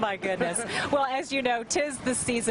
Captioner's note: laughter